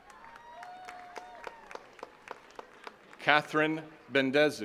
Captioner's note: attendees cheering and clapping